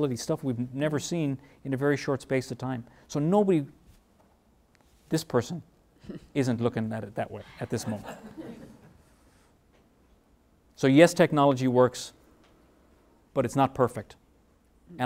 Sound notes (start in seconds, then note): 7.4 laughing